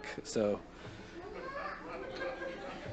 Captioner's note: light Laughter